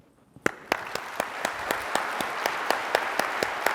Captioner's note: applause